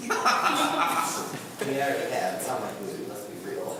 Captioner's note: several people laugh